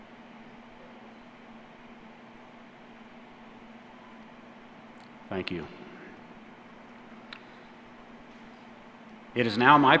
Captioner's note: silence